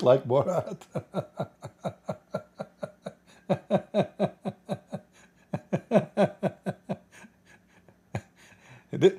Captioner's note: Ketawa